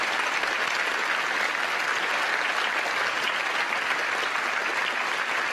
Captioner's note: cheers & applause